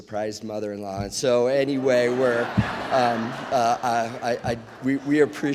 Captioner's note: audience laughs